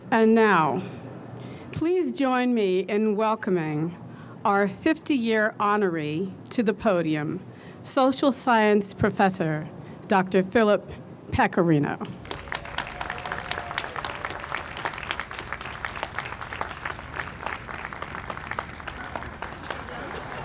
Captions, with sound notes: - And now please join me in welcoming our 50 year honoree to the podium Social Science Professor, Dr. Philip Pecorino. (audience applauds)